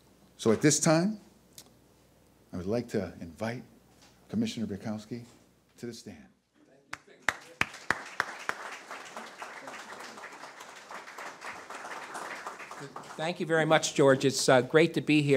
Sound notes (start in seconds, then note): 7.0 audience applause